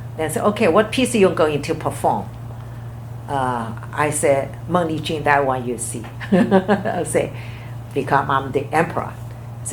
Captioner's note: laughs